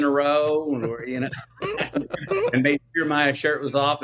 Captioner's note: laughs